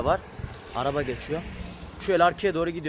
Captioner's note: A car is passing